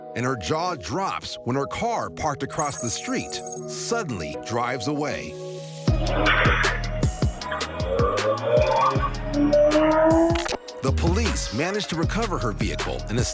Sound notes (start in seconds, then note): 5.5 engine revs; 5.5 tires screech